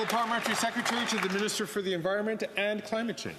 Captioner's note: some Applause